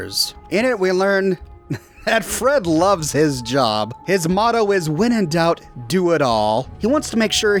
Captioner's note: chuckling